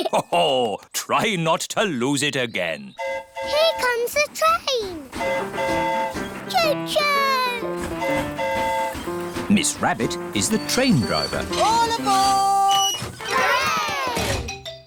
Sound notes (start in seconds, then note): 3.0 train horn hooting; 7.8 train horn hooting